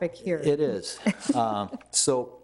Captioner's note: laughing